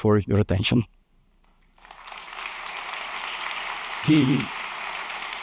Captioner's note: applause